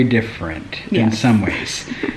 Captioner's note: laughs